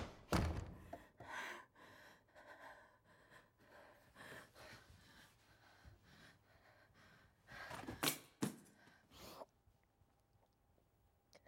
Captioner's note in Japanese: 秀一の荒い息遣い